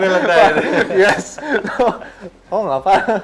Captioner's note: laughs